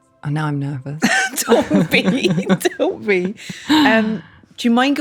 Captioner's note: laughs